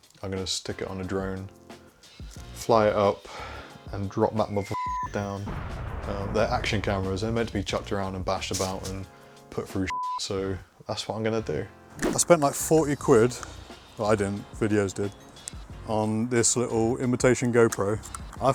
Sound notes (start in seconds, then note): 4.6 beep; 5.4 banging; 9.9 beep